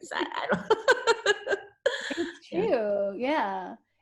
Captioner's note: laughs